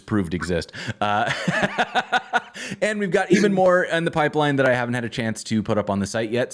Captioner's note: laughter